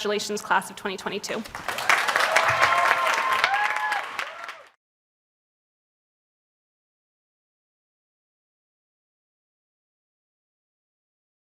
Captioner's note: applause